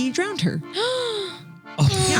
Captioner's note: gasping